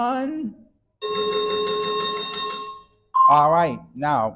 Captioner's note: chiming sound effect